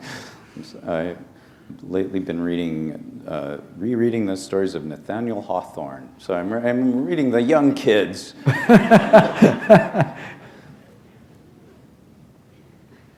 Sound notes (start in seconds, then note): 8.4 laughter